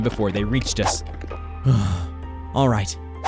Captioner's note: exhales